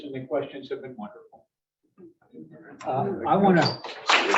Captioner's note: clapping